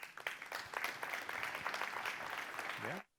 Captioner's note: applause